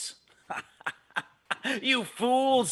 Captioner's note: laughing